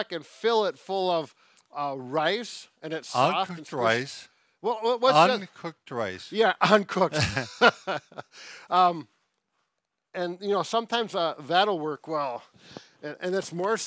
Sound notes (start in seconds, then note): 7.1 laughter